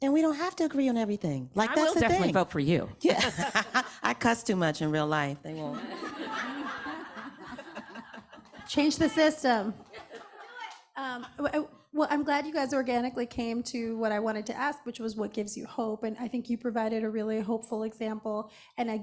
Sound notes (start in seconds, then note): 3.1 laughing; 5.6 audience laughing